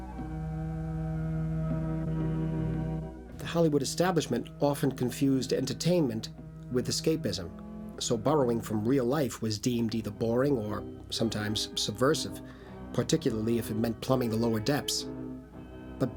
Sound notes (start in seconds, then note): none